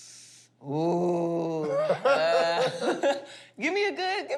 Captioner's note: laughter